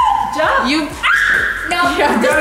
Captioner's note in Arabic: صراخ